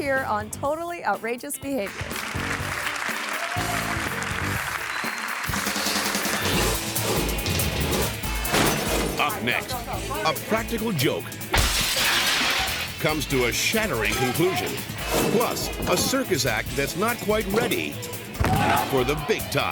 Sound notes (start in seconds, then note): 1.9 audience applauding; 5.7 graphics whooshing; 5.7 upbeat pulsating music; 8.4 glass shattering; 8.6 graphics thump; 11.5 glass shattering; 18.4 person thuds